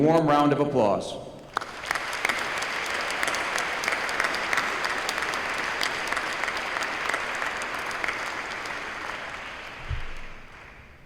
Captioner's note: applause